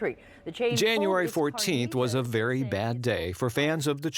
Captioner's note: voiceover